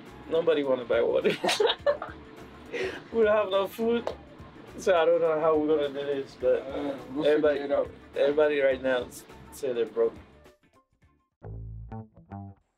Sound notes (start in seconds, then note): 2.7 laughing; 12.5 playful upbeat music